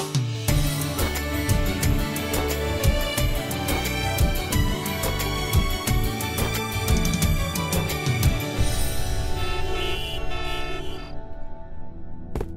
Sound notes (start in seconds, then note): 0.2 happy music playing; 9.2 car horn honking